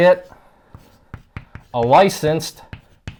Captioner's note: chalk writing